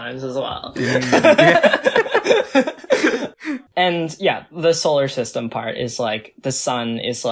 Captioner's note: both laugh